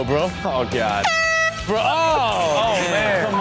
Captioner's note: air horn blaring